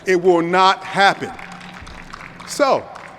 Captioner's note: audience applause